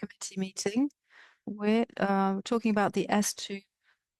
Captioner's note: speaking French